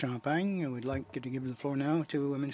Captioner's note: speaking French